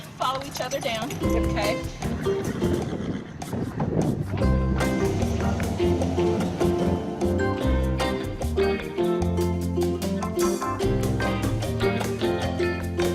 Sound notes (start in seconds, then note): 2.2 light guitar music; 4.3 truck engine